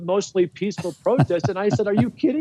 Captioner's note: interviewer laughs